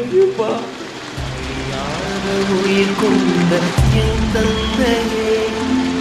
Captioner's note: crowd cheering